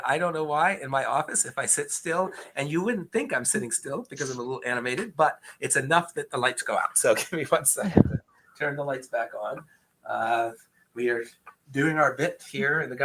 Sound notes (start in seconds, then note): 6.8 chuckles